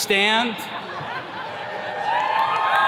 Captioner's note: attendees laughing; attendees cheers and claps